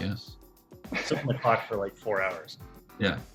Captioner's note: laughter